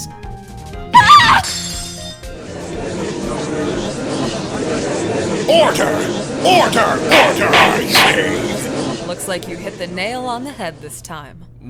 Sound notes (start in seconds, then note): 0.9 scream!; 2.4 gallery chattering